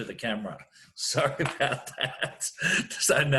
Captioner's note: laughing